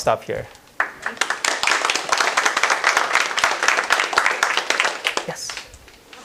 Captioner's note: applause